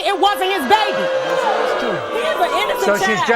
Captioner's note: audience booing